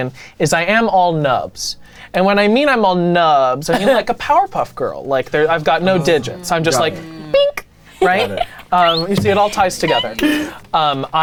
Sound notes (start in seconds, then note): 7.9 women laughing